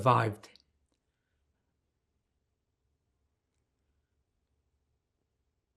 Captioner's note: pauses 8 seconds